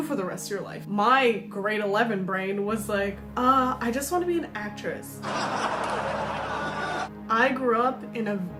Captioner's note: laugh track plays